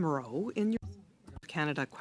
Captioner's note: speaking French